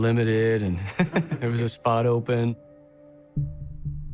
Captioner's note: chuckles